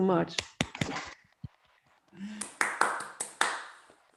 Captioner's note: applause